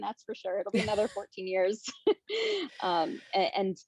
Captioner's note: chuckles